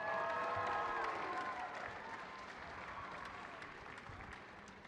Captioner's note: audience applauding